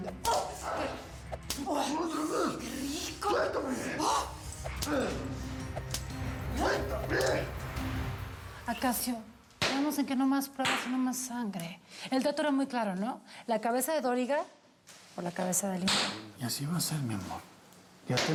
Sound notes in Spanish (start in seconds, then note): 1.5 quejidos